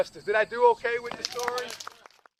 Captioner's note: applause